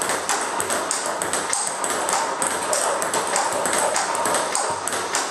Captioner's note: ball ping pong hitting continues